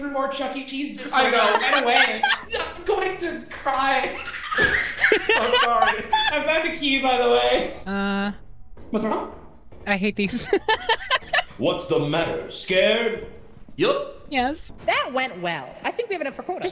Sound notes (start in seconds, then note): 1.1 laughs; 4.7 laughs; 9.9 laughs